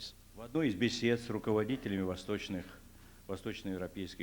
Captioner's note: non-english speech